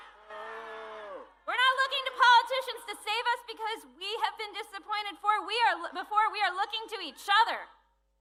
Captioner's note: booing